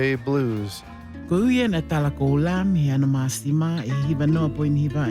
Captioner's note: foreign language